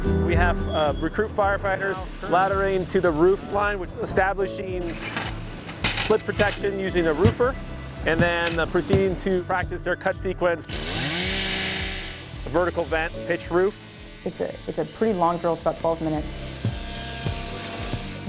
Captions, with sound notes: We have, recruit firefighters, laddering to the roof line, establishing [metal ladder clanging] foot protection using a roofer and then proceeding to practice their cut sequence, (chainsaw cutting into wood) vertical vent, pitched roof. It's a it's a pretty long drill. It's about 12 minutes.